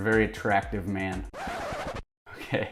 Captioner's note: record scratches